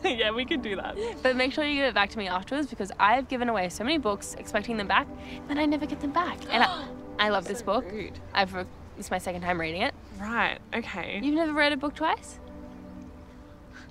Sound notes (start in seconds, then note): 6.1 gasps